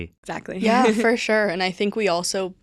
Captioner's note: chuckles